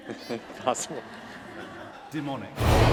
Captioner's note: laughter